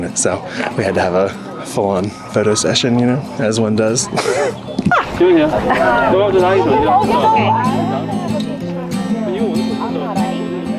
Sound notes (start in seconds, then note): 4.9 chuckles; 4.9 group chattering; 5.0 inspirational music